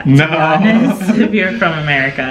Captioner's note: laughing